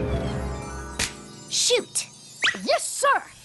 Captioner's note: snap!